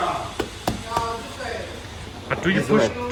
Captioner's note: tapping